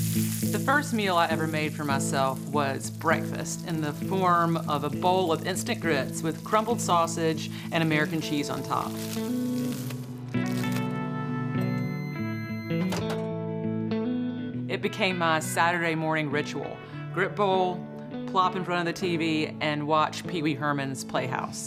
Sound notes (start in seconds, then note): 9.2 light guitar music; 11.5 microwave beeps